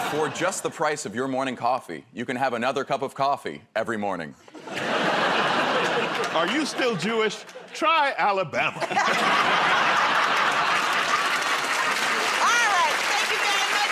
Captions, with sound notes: -For just the price of your morning coffee, you can have another cup of coffee every morning. -Are you still Jewish? Try Alabama. [ Laughter ] -Alright. Thank you very much.